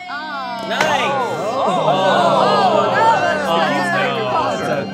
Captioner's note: all exclaiming